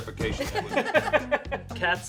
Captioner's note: laughter